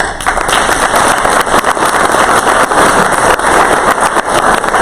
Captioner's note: crowd applause